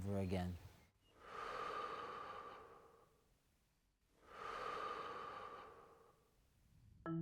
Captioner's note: deep inhalations and exhalations